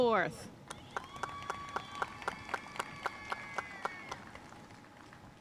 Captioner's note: audience cheering and applauding